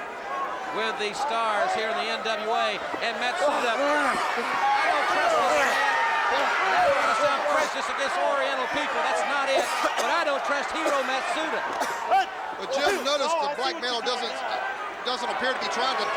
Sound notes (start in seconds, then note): 7.2 crowd cheering